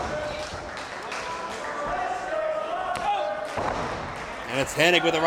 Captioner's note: crowd chants